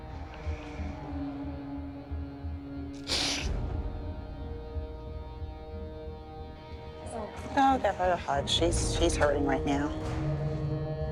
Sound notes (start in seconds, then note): 2.9 sniffling